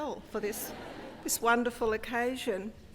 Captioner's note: laugh